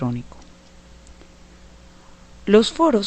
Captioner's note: no audio